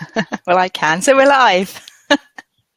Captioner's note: laughs